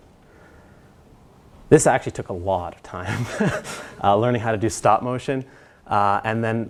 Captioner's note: laugh